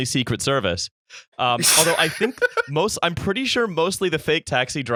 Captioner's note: laughter